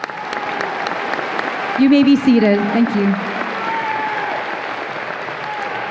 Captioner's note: audience applause and cheers